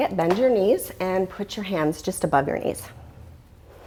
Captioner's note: deep breathing sounds